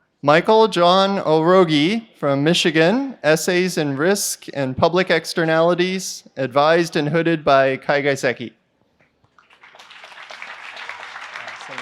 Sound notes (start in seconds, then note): 9.3 applause